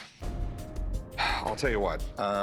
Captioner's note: suspenseful music; sighs